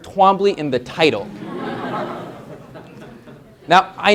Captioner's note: laughter